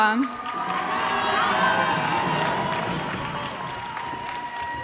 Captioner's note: cheers and applause